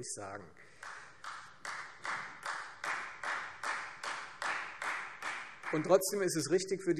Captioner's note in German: Beifall Freie Demokraten